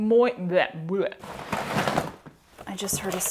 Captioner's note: clattering